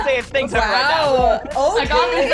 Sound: all laughing

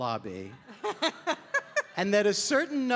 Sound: Rachel laughing

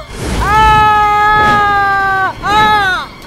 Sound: screams

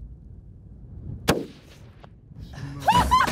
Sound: gun popping; whooping

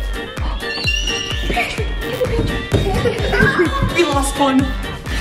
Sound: gasps; squeals

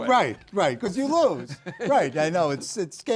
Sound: laugh

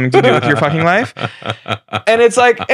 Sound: laughing

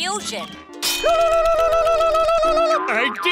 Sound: screaming

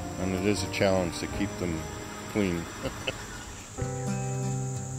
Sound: chuckles

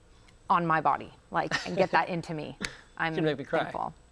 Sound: chuckles

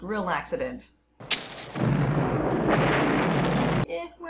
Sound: sounds of the world ending in fire

